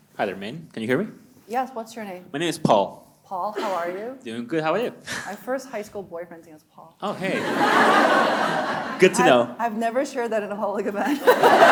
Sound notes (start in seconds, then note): 7.1 audience laughing